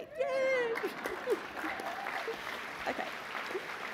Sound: applause

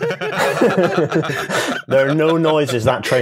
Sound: laughter

